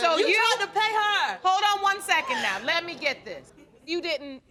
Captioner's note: audience gasps